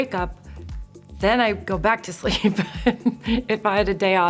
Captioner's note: chuckles